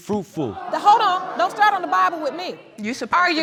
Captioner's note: audience exclaims